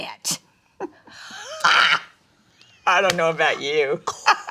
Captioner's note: both laughing; laughs